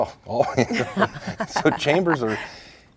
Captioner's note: laughing